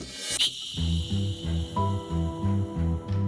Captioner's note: none